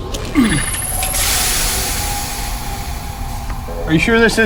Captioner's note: steam hisses